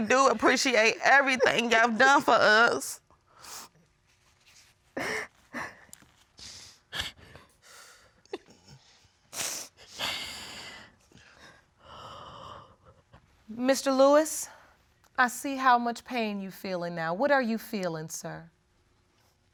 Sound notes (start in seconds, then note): 5.6 continues crying; 12.1 shuddering